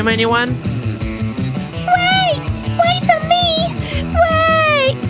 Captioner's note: heavy breathing